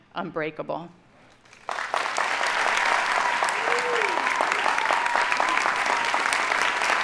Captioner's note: audience cheering and applauding